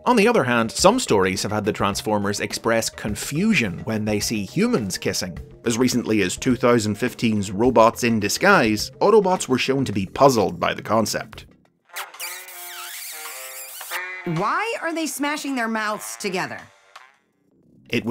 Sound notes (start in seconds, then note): 12.0 kissing noises